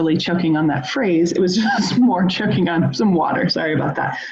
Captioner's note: laughs